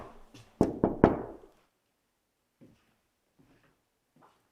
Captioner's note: knuckles tapping